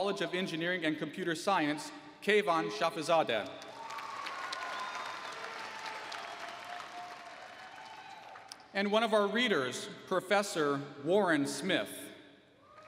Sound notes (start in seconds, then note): 3.5 applause